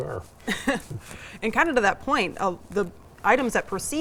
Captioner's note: laughs